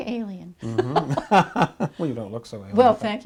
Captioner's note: both laughing